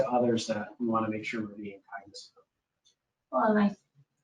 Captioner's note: speaking faintly